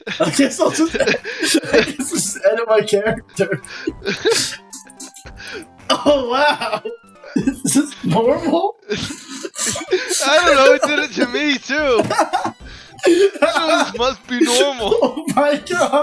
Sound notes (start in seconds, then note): 6.4 laughter; 15.3 laughter continues throughout